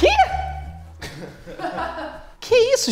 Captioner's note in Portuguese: risadas